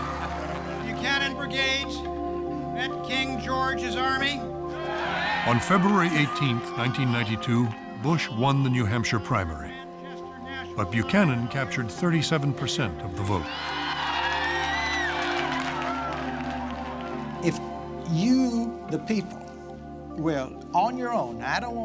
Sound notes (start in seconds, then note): 13.3 crowd cheering